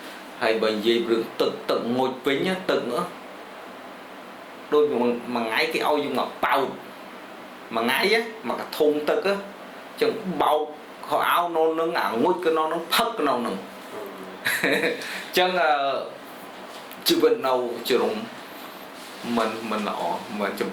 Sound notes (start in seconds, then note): 14.0 laughs